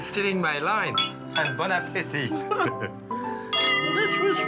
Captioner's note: chuckles